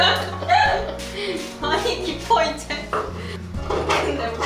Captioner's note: haha